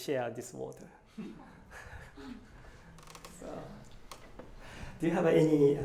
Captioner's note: laughter